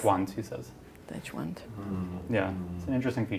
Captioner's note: non-english speech